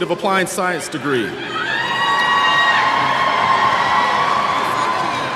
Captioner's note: applause